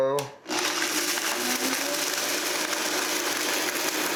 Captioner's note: machine whirs